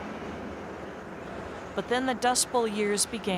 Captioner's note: wind whipping